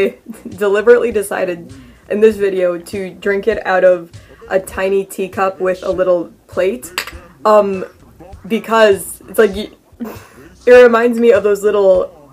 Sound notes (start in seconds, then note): 9.1 stammers